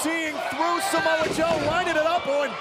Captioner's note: crowd cheering